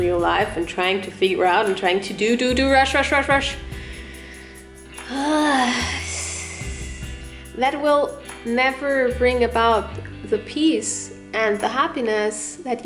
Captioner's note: sigh